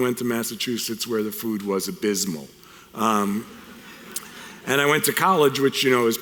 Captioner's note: audience chuckles